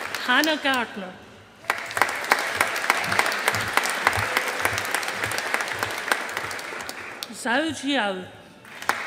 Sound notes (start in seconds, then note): 0.0 audience applauding; 1.6 audience applauding